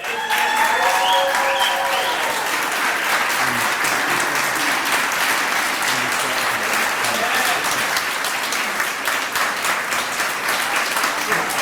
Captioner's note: applause & cheering